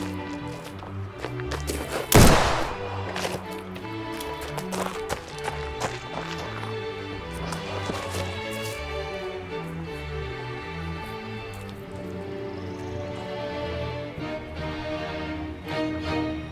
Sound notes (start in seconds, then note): 2.0 gunshot banging; 7.3 dramatic music continues